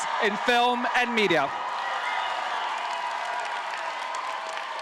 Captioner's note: audience applauding